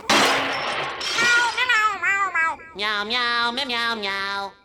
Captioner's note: banging; meowing